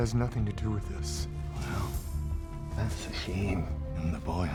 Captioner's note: scottish accent